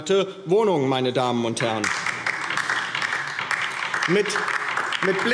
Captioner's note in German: Beifall DIE LINKE